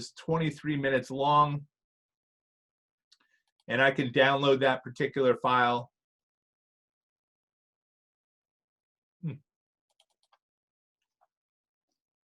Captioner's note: silence